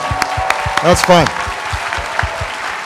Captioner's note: applause